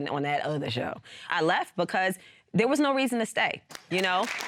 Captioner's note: audience applauding